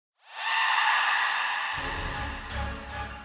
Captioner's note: screaming; scary music